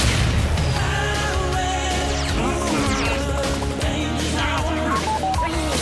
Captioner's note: grunts